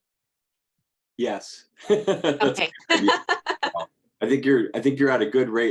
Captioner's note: laughs